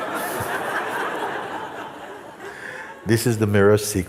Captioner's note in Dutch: gelach